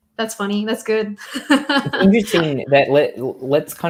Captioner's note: laughs